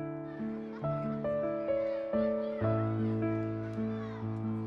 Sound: children laughing and playing

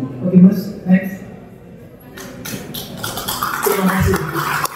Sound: sound of applause

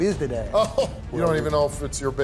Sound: Steve laughs

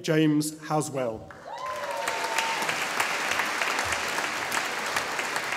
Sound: audience applauding

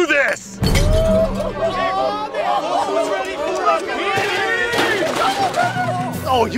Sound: Screw Attack laughing and causing a commotion

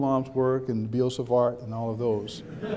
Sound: background chuckles

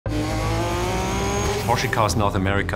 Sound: car revs

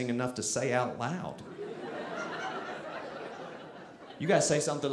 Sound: audience laughing

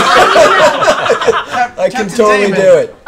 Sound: laughs

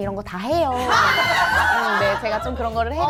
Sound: shocked

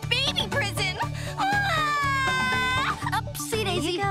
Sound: sobbing

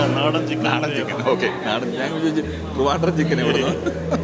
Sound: laughs

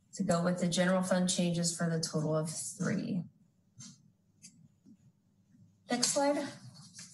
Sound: rustling of Papers

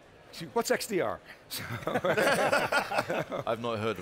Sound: people laughing

